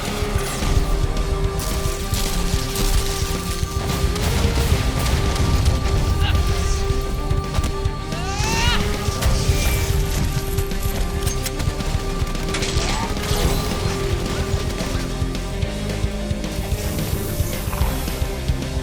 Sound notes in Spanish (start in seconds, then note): 9.1 impacto; 10.9 tiroteo